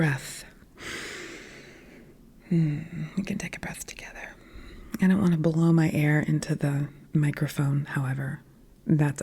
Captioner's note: deep breath